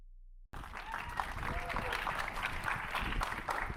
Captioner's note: audience applauding; audience cheering; audience applauding continues